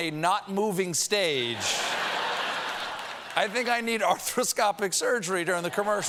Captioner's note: laughter